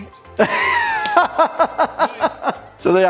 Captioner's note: laughing